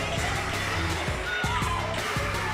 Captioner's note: crowd cheering